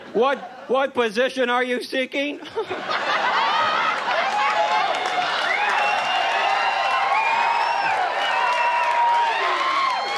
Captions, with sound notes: "What position are you seeking?" (audience laughs and cheers)